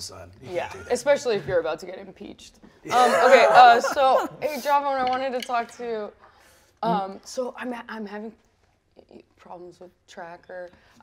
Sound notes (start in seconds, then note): 2.8 all laugh